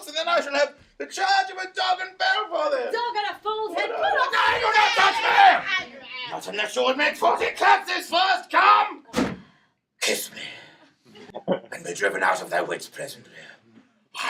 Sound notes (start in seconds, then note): 4.3 shouting